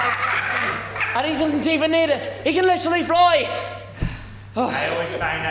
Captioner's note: pirates laugh